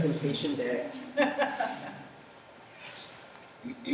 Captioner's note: laughter